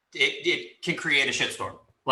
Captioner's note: none